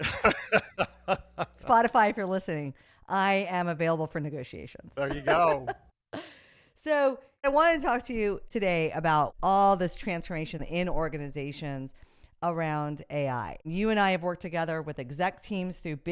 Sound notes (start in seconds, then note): 0.0 laughing; 5.0 laughs